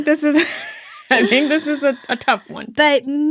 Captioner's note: laughing